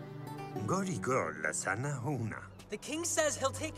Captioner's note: king speaks indonesian